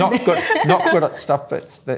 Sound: laughter

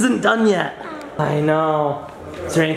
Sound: groans

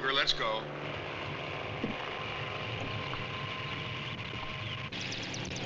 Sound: helicopter engine running

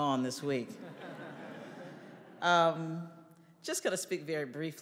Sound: audience laughing

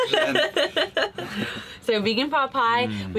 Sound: laughing

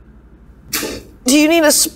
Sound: splat

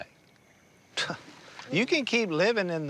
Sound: scoffs

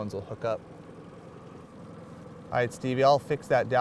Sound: boat engine idling

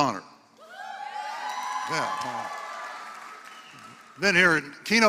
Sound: applause

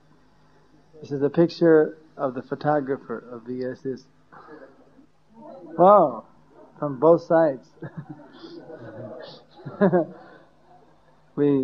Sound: laughter

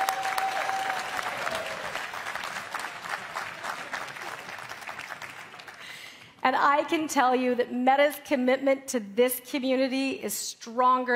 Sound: cheering

